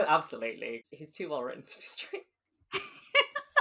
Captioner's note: laughing; laughs